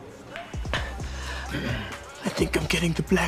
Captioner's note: coughs